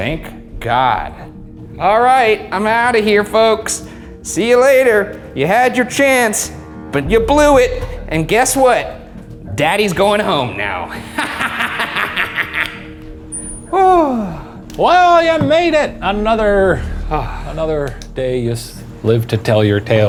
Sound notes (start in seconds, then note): 10.9 laughing; 13.9 sighs